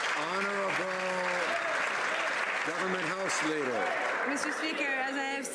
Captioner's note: some Applause